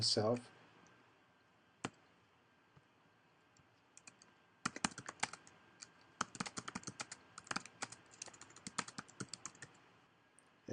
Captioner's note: typing